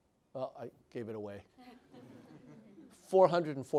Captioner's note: laughter